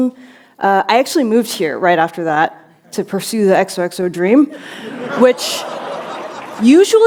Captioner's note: laughter